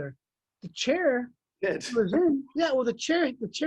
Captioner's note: laughs